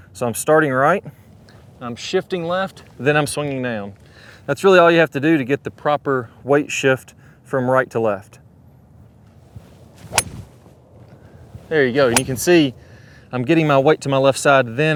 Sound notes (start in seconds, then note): 9.8 club hitting ball